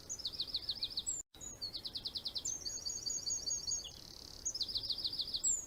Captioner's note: bird singing